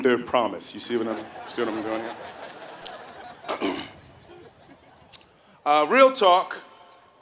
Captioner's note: laugh